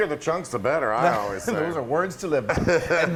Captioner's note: laugh